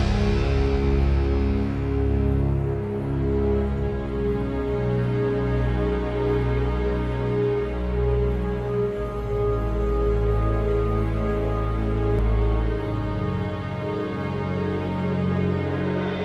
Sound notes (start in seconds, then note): none